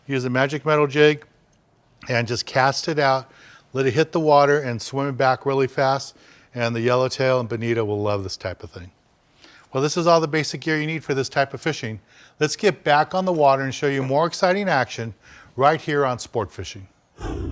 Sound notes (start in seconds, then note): none